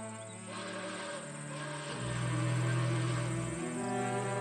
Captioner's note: sad music; train horn whistling; birds twittering